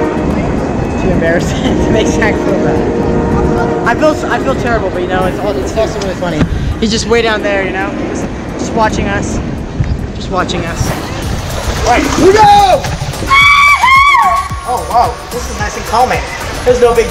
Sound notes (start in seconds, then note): 13.2 exclaims; 13.2 screams